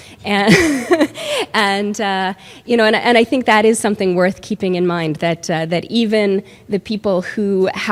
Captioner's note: laughs